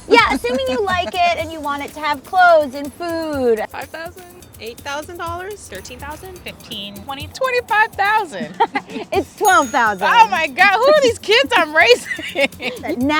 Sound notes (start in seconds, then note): 7.5 laughs